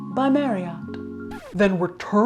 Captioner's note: record scratching